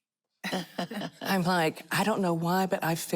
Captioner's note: laughter